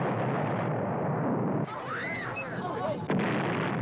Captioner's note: chattering, Screaming Continue